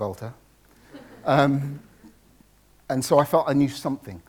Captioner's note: audience laughs